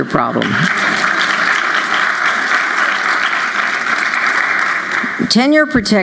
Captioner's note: applause